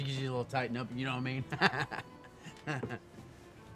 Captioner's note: laughs